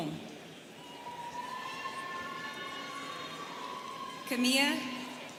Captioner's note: students cheering